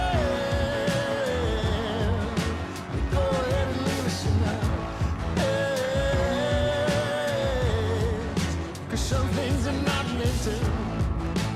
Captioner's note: cheering and applause